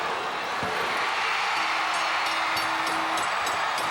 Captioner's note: crowd cheering; bell ringing; crowd cheering